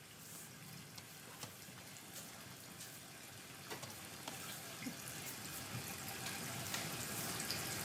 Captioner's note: water trickles